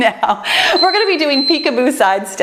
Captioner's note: timer beeps